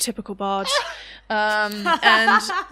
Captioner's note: more laughter